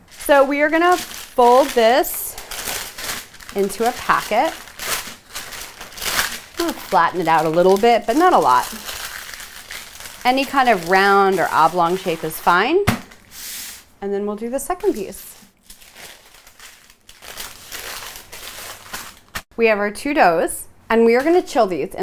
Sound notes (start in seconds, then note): 4.8 paper crinkling; 16.3 parchment paper crinkling